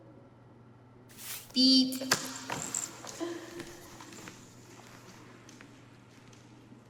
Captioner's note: chuckles